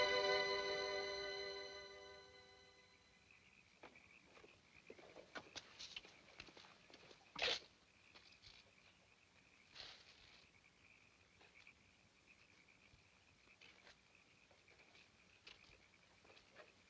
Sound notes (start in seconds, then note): 3.3 footsteps plodding; 3.3 frogs croaking; 13.2 frogs croaking continues